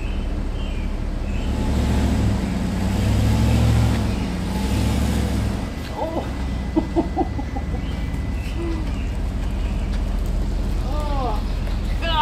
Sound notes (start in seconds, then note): 5.8 laughing